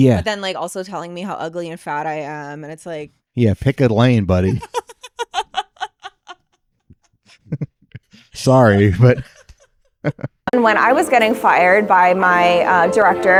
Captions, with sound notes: Yeah. But then like also telling me how ugly and fat I am. And it's like. Yeah, pick a lane buddy. (laughing) Sorry, but. And when I was getting fired by my director,